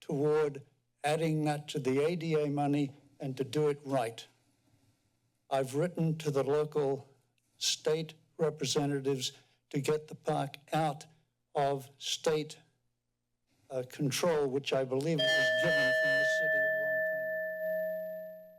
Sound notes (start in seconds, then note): 15.2 timer dings